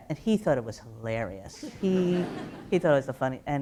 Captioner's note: light laughter